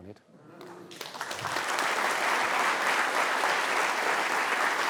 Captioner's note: applause